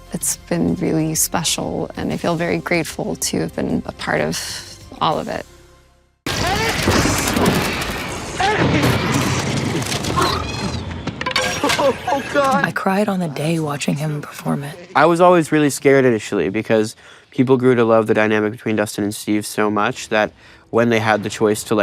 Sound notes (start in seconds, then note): 9.6 bats squawking